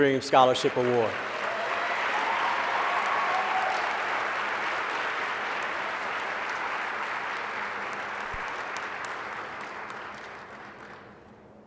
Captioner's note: applause